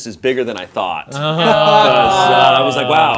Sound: group exclaiming

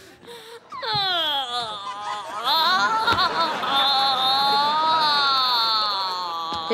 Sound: moaning

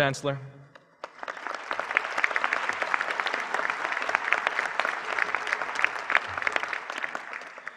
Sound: applause

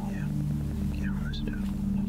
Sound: whispering

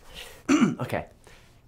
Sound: clears throat

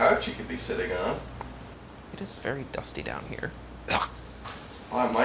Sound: coughs

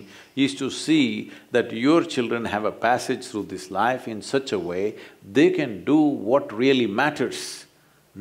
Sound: none

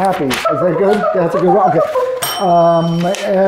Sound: box beeping; bell rings

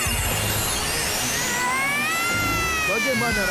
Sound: screaming

